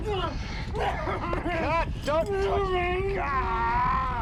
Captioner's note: man groans and yells